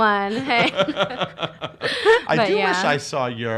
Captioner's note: laughs